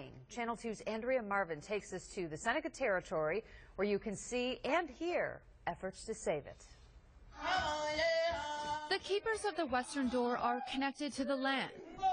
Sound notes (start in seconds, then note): 6.9 chanting in Seneca